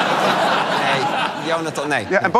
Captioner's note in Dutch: gelach